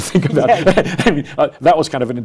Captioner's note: laughs